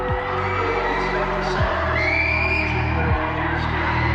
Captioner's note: panicked screaming